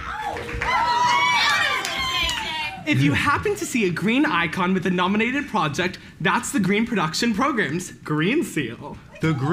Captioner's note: applause